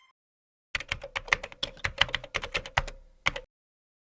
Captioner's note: keyboard typing